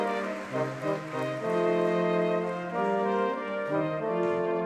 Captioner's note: audience clapping